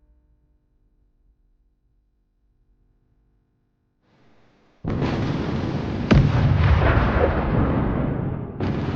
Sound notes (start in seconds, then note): 4.8 artillery fire